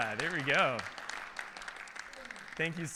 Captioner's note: audience applauding